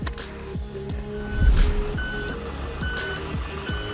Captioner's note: vehicle reverse sound